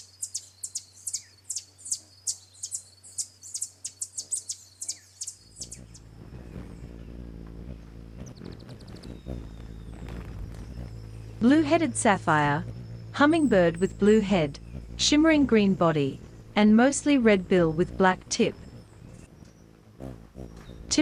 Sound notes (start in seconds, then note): 0.0 birds chirping; 5.6 bird's wing flapping; 6.4 birds chirping